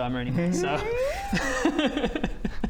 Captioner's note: noises of deep regret